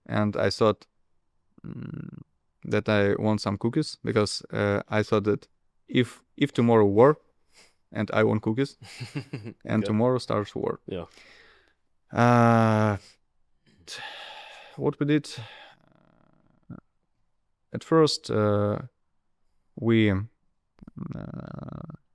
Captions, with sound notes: And I thought, mm, that I want some cookies because, uh, I thought that if, if tomorrow war and I want cookies- [laughs] Yeah and tomorrow starts war. Yeah. Uh, [sighs] what we did, uh, at first, uh, we, uh...